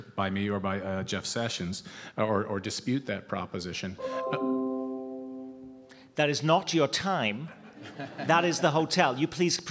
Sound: tone

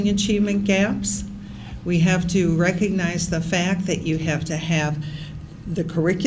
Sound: none

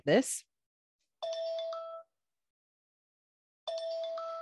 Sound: bell chiming

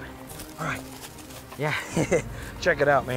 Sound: chuckles

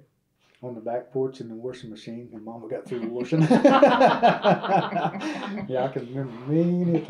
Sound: laughter

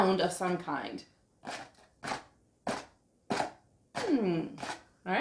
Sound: scratching

